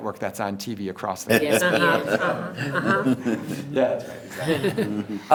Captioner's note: everyone laughs